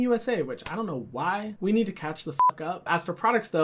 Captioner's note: beep